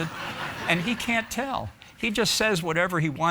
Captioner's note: audience laughing